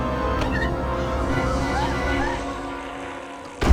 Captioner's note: dramatic music; crying